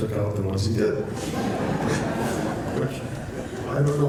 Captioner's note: laughter